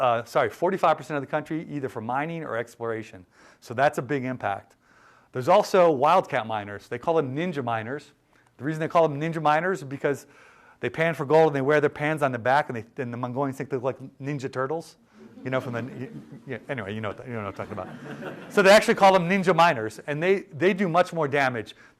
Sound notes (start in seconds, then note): 15.2 laughter